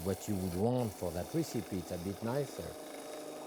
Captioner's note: juicer humming